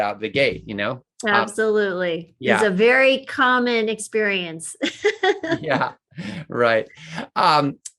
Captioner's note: laughs